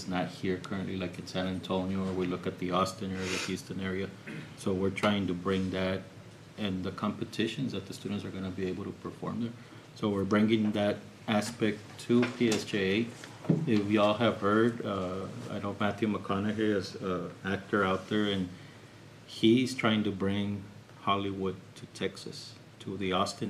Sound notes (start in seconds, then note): 4.0 snorts; 4.2 clears throat